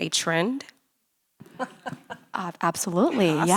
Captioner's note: laughing